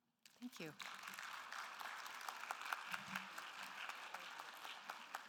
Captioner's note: audience applauding